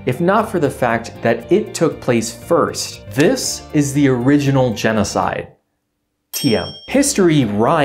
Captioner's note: ding